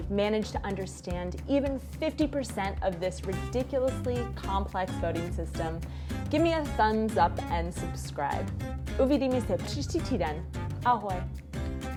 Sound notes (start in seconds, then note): 7.5 speaking in foreign language